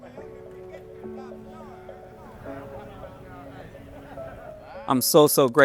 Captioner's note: prisoners indistinctly talking